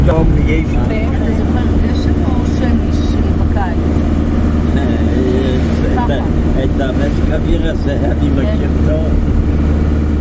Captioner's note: laughing